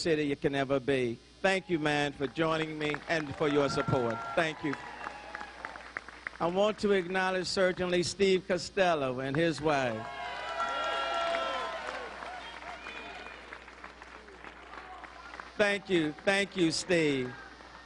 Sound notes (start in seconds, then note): 8.4 applause